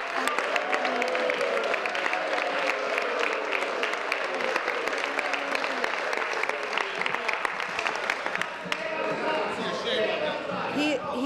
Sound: applause

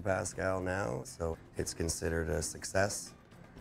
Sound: voiceover

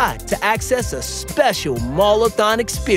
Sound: none

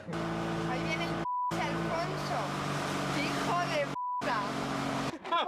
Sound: beep

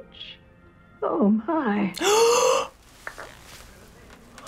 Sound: gasps

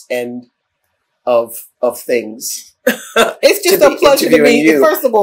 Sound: laughter

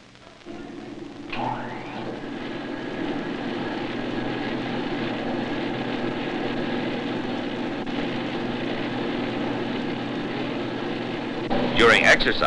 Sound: treadmill whirs

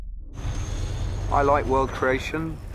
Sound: engine revving

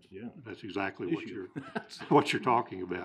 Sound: laughing

